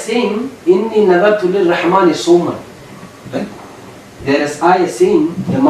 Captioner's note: Arabic